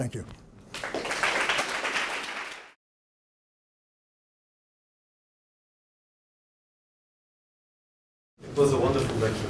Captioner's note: applause